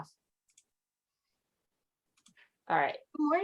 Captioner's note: mouse clicking